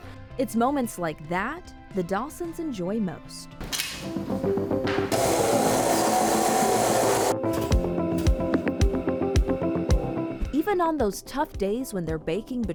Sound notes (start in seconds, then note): 4.1 mixer whirring; 7.3 upbeat music